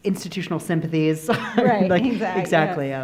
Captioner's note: laughing